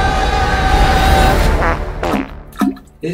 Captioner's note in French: Bruit de pet